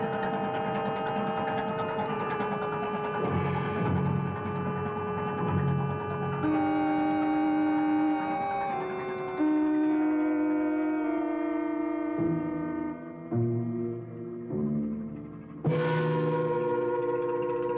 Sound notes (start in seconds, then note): 0.1 dramatic orchestral music continues; 9.1 ship's horn blares